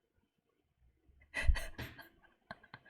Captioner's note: laughs